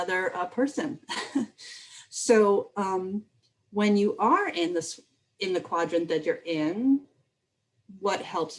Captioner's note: laughter